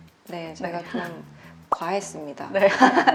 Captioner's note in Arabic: ضحك